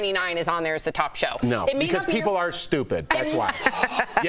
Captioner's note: laughter